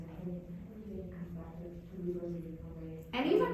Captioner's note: faintly speaking